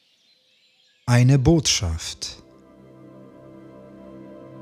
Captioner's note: german